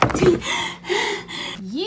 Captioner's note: breathing heavily